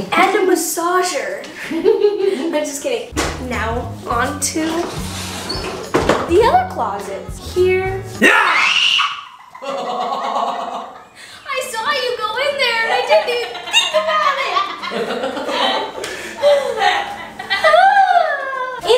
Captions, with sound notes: And a massager. No, just kidding Now, onto, the other closets. Here- (shout) (scream) (laughter) I saw you go in there and I didn't even think about it! (laughter)